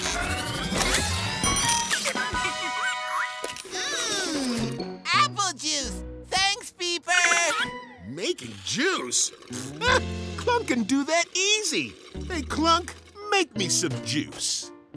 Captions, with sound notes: Mmm...! Apple juice! Thanks, Peeper! Making juice? [scoffs] Clunk can do that easy. Hey, Clunk, make me some juice.